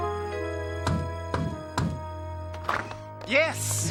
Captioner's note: knocking